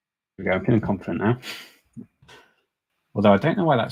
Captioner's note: chuckles